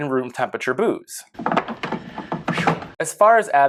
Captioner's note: silly crunching noises